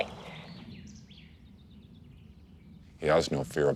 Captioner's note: birds chirping